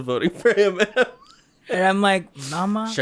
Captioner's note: chuckles